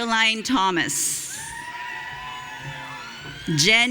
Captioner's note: audience cheering